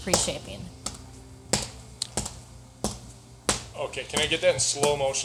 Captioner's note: dough smacking